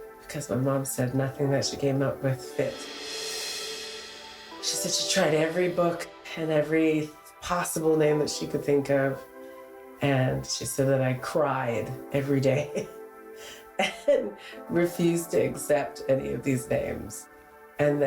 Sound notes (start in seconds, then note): 13.8 chuckles